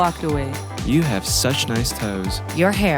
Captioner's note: voiceover